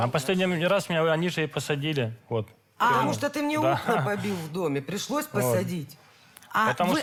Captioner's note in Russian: смех